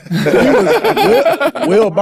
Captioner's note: group laughing